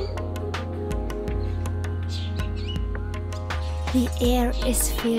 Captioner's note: birds chirping